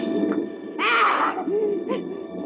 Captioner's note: groaning